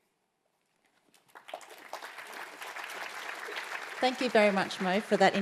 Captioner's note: applause